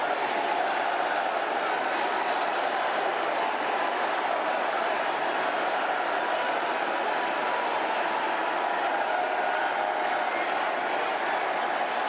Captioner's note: applause